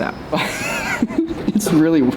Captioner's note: laughter